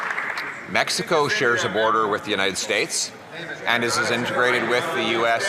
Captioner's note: some Applause